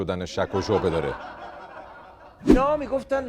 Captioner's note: laughter